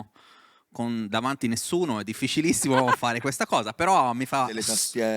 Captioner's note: laughing